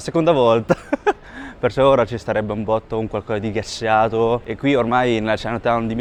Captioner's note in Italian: risate